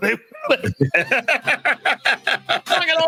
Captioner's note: laughs